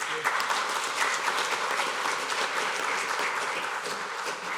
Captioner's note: applause